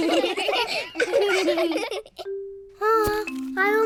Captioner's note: all laugh; children laughing